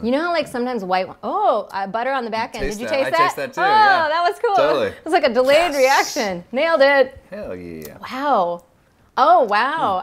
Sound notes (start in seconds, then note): none